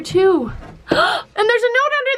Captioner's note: gasps